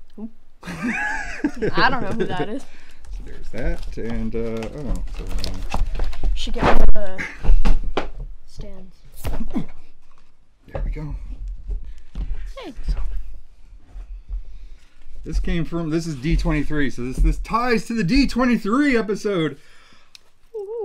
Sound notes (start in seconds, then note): 0.6 laughter; 6.6 whooshing